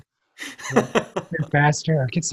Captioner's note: laughs